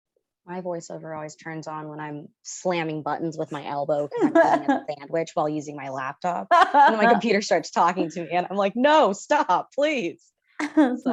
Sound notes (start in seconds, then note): 4.1 laughs